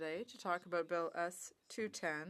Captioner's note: speaking French